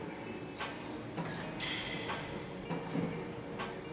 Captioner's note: machine clicking